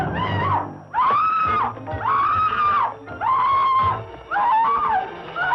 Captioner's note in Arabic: صراخ